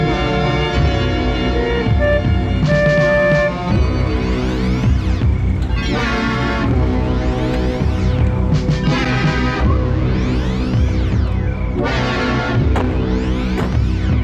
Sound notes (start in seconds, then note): 2.6 horn blaring; 7.5 ominous sci-fi music